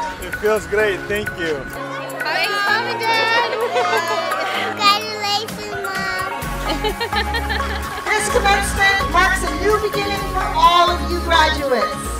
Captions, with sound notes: It feels great, thank you Hi Mom! - Thanks Mom & Dad [Laughter] Congratulations, Mom! [Laughter] This commencement marks a new beginning for all of you graduates.